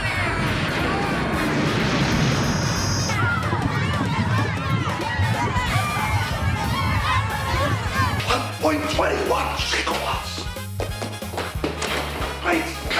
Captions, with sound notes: (explosion pounds) (fire roaring) (onlookers clamoring) - 1.21 gigawatts! Great Scott!